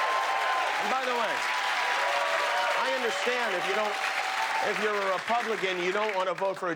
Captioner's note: cheers and applause